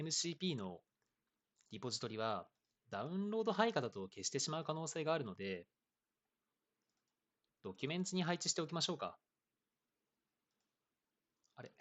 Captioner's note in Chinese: 十二秒停顿